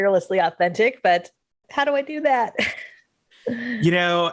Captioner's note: chuckles